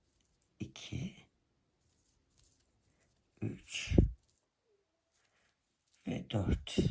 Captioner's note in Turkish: boğazını temizler